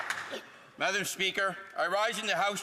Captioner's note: applause